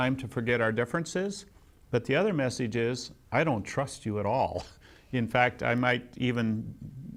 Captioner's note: laughs